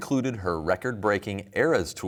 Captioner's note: none